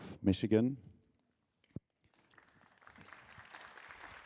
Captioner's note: applause